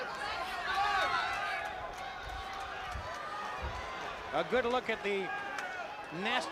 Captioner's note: crowd chatter